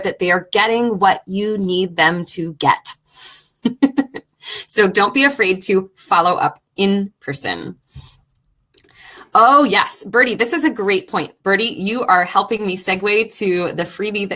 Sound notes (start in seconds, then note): 2.8 laughing